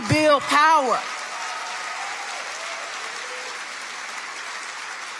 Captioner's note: audience applauding